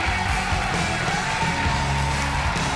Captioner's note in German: Jubel